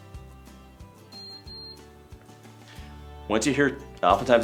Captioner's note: two beeps beeping